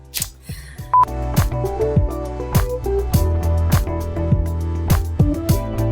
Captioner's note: beep